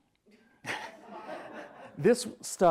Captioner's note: everyone laughs